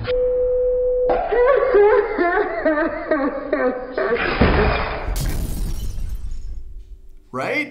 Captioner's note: sobbing